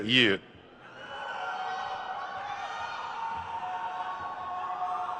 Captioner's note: crowd cheers